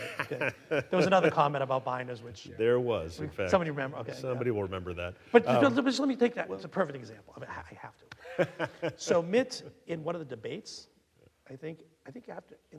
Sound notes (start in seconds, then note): 0.0 laughing; 8.2 laughing